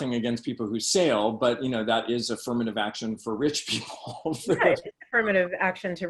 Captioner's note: laughs